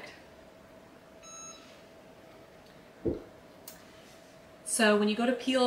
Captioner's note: machine beeps